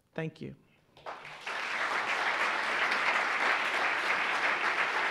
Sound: audience applauding

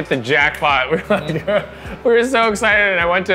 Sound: laughing

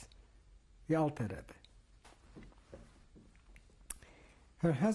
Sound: pauses for 3 seconds

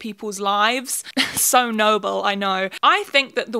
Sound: giggle

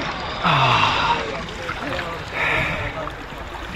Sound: water splashing; sighing

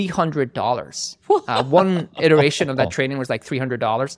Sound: laughing

